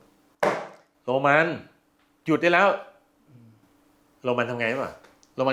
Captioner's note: slaps table loudly